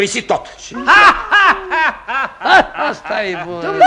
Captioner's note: laughing